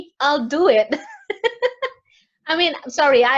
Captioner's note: laughs